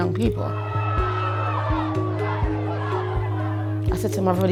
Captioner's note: people shouting